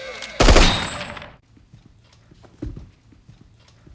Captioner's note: alarm stops